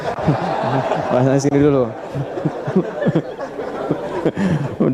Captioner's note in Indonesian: tertawa